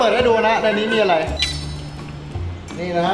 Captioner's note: beeping